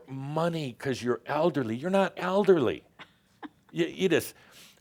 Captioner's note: she chuckles